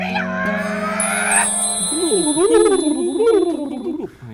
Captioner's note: magic sound